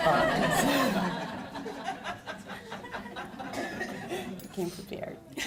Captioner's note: audience laughs